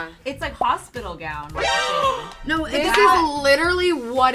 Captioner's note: laughs